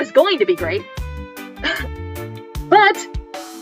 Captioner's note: exasperated laugh